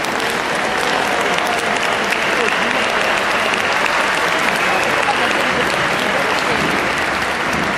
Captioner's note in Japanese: 拍手・歓声